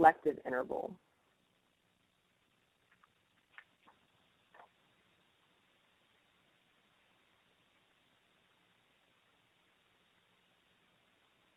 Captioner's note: silence